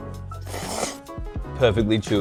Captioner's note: slurps